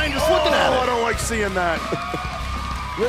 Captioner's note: bell ringing; crowd cheering